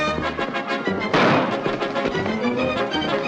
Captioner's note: gunshot